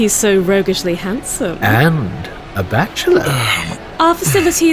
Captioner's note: Chartrulean clears throat uncomfortably